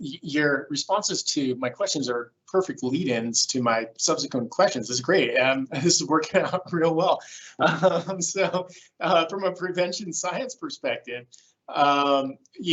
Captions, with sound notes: Your responses to my questions are perfect lead ins to my subsequent questions. This is great. This is working out real well. (chuckles) So from a prevention science perspective,